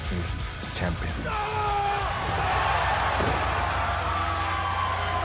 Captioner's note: crowd cheering